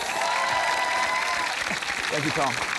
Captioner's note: cheering, applause